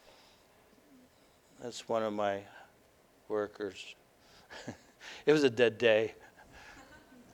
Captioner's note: laughter